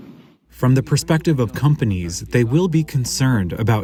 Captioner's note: through translator